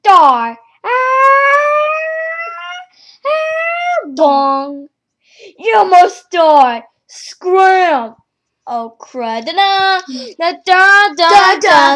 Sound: screams

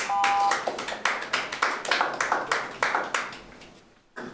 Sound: applause

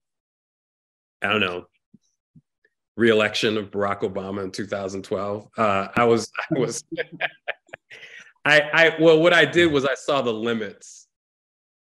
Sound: laughs

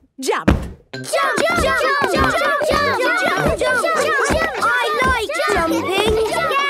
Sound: all shouting "Jump! Jump!"

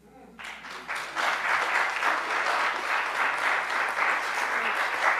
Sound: audience applauds

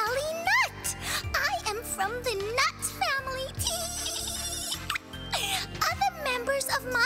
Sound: laughing

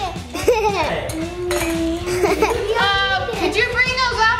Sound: giggles

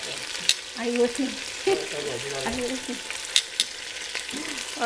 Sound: laughs

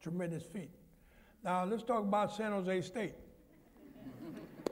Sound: laughter

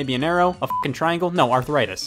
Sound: beep

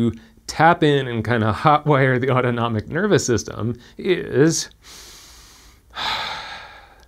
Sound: breathing

